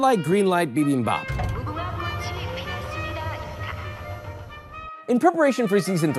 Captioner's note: game character speaking in Korean